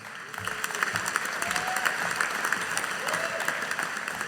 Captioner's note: audience applauding